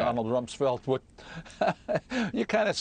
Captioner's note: laughter